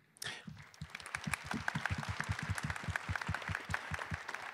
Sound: attendees clapping

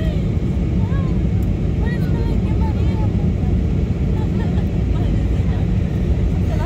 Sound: laughs

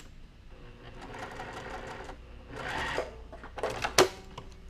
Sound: machine whirring

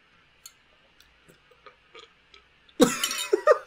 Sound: belch; laughs

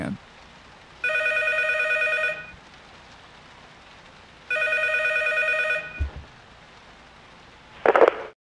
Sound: phone ringing

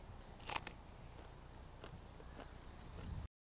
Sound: pea crunches

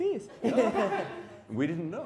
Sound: laughing

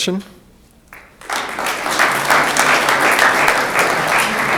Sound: room applauds

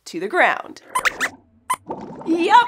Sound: squeaks squeaks

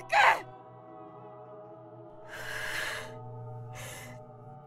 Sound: deep breath

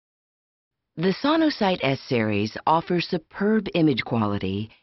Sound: voiceover

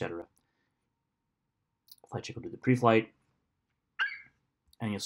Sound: FlightCheck eagle screeches

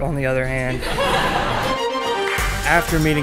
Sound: laughing

